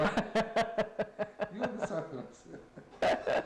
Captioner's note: laughs